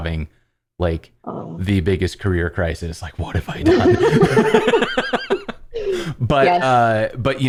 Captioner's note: laughter